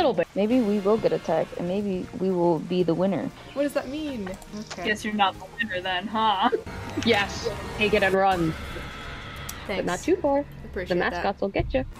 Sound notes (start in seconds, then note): 8.4 scream sfx from game; 11.6 cheerfully